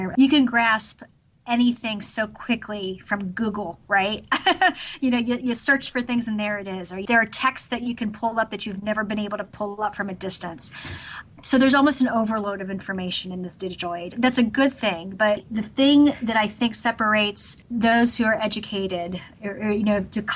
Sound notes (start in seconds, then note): 4.4 laughs